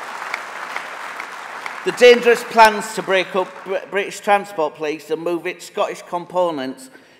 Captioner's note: applause